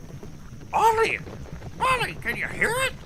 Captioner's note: hooves beating